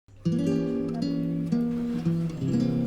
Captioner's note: SFX: Chair rolling sounds